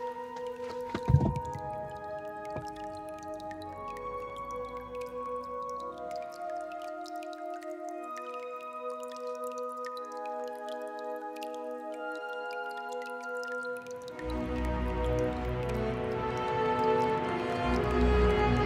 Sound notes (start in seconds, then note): 0.1 enchanting music; 4.0 water dripping; 14.0 underground water well noise